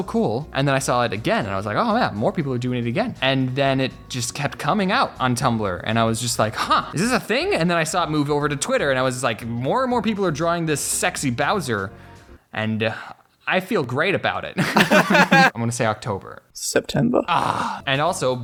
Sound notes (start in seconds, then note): 14.6 both Laugh